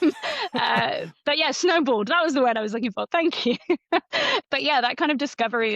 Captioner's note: laughs; laughs